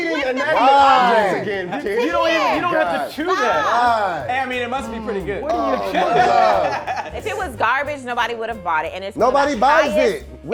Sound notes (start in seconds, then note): 5.5 laughing